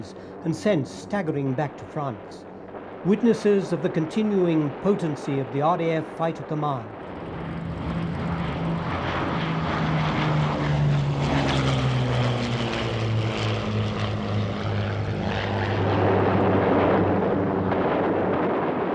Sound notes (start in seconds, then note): 7.5 planes zooming